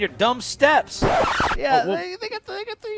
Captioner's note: record scratches